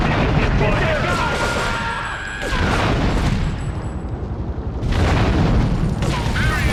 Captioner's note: siren wailing; siren wailing